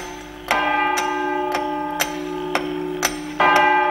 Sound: ticking and chiming

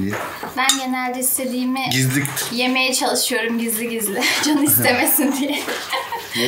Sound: laughs

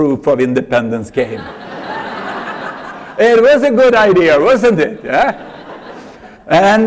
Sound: laughter

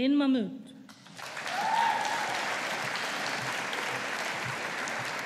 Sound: audience applauding

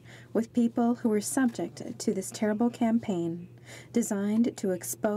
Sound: speaking French

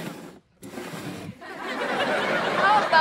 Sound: crowd laughing

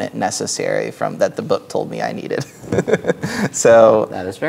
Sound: chuckles

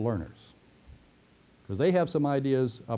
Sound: pause

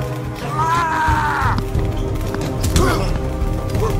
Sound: henchman yells; men grunting

